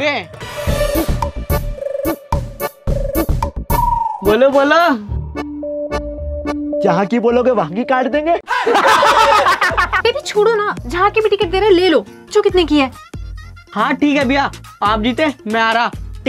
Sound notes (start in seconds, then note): 8.4 laughing